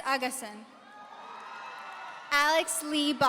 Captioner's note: audience cheering